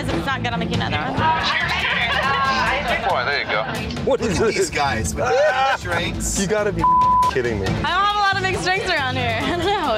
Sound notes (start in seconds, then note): 5.1 laughing; 6.8 beep